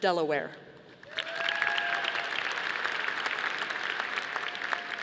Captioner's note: audience applauding